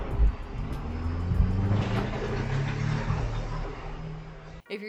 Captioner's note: dump truck roaring